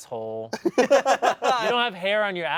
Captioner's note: everyone laughs